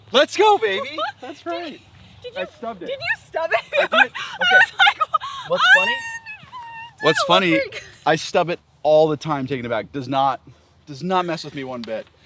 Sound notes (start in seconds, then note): 0.2 laughs